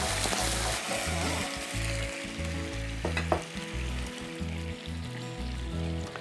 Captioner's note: sizzling